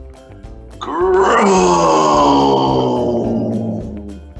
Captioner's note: groaning